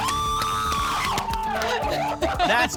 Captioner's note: cheering and screaming